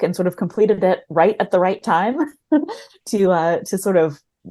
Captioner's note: chuckles